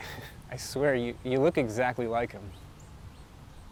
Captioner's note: chuckles